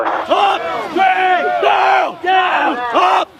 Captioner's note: men yelling